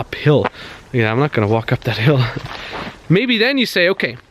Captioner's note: chuckles